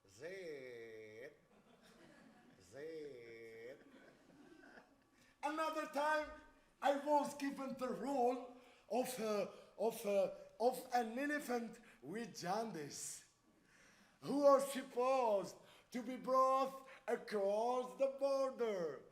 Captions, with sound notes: "Zed. Zed." [audience laughs] Another time I was given the roll of, of, of an elephant with jaundice who was supposed to be brought across the border.